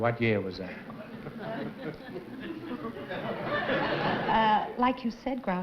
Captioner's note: laughter